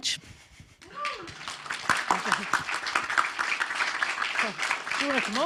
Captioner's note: audience clapping